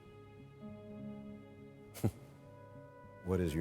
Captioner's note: chuckles